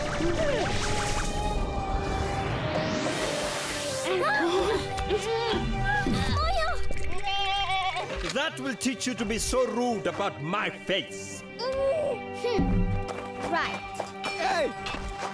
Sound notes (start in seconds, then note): 4.5 MB moans; 7.2 bleating